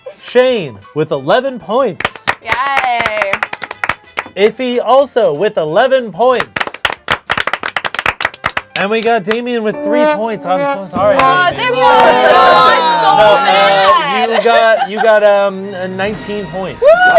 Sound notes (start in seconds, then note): 6.4 everyone applauds